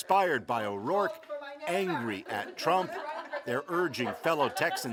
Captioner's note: laughter